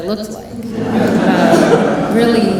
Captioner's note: laughing